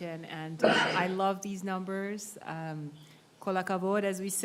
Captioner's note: speak in foreign language